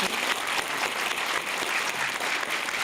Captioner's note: applause